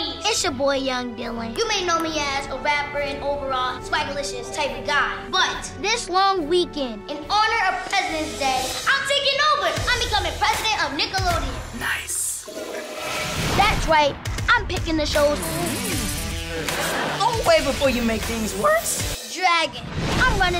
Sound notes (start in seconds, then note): 12.4 toilet flushes